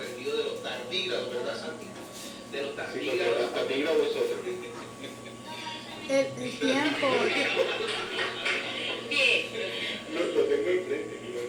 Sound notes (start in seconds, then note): 6.8 laughs